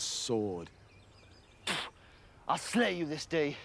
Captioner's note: mouth spits